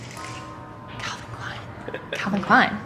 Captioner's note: whispers